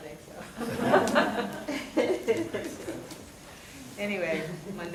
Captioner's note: audience chuckling